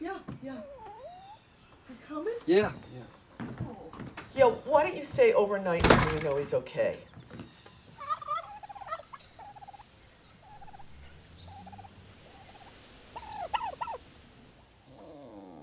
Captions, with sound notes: Yeah, yeah. You coming? Yeah, yeah. Yeah, why don't you stay overnight until we know he's okay? [turkey gobbling]